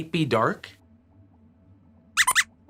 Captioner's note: squeaks squeaks